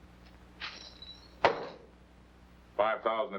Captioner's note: coins jingling